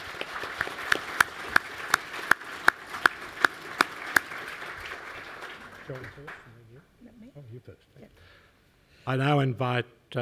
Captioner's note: applause